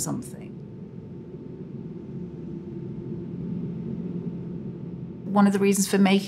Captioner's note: continuous smooth whooshing